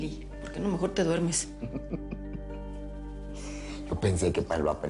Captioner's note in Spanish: Nelly ríe